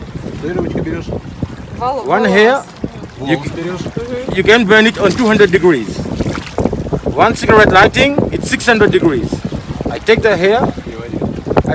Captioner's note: english conversation